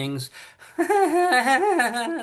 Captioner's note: laughing